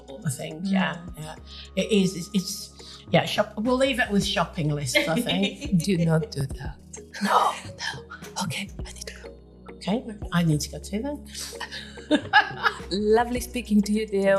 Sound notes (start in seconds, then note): 10.3 whispers; 11.6 laughing